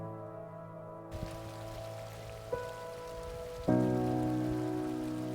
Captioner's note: water flowing